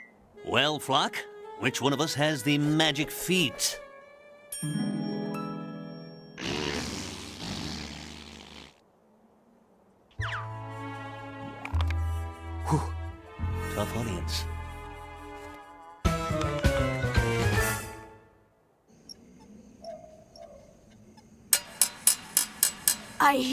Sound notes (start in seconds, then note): 6.4 raspberry blowing; 21.5 metal clanking